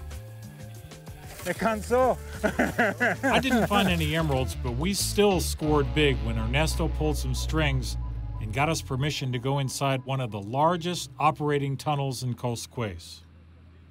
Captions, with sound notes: [speaking Spanish] [laughs] I DIDN'T FIND ANY EMERALDS, BUT WE STILL SCORED BIG WHEN ERNESTO PULLED SOME STRINGS AND GOT US PERMISSION TO GO INSIDE ONE OF THE LARGEST OPERATING TUNNELS IN COSCUEZ.